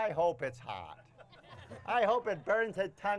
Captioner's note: crowd laughing